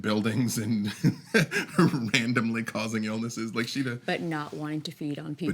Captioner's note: laughs